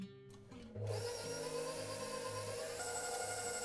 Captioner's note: whirring